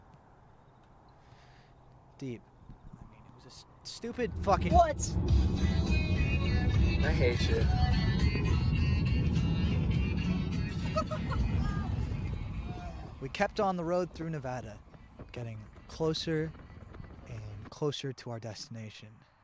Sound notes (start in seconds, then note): 5.0 upbeat electronic music; 10.7 giggles